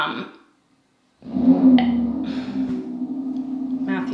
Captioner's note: car starting